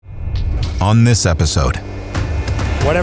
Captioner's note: car engine roars